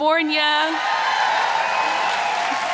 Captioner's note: cheers